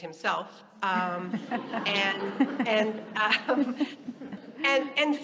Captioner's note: audience laughing